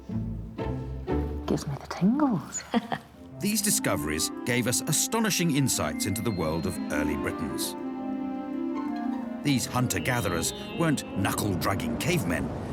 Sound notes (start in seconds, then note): 2.6 woman laughs